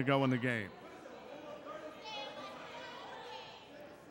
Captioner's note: crowd chattering